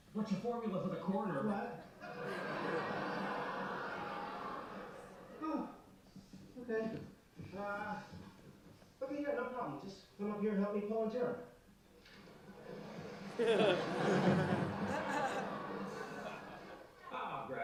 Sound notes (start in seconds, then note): 2.0 laughter; 12.5 laughter